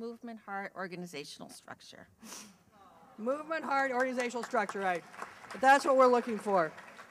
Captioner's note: awww and applause